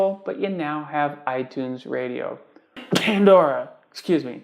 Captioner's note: cough